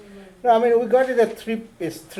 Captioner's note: voiceover